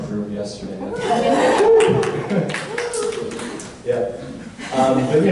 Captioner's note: audience cheers